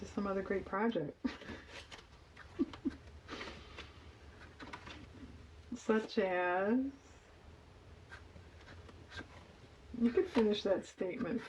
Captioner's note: laughs